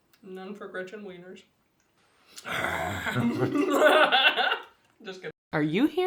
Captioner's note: growling and giggling